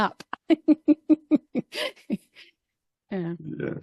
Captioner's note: laughing